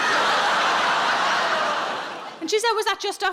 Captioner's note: audience laughing